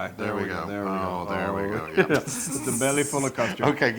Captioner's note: laugh